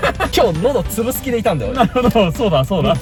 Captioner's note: laughs